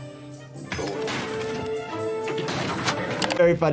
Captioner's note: stool smashing